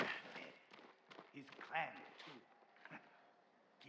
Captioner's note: laugh